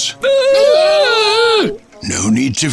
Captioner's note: Scruff and Gruff exclaim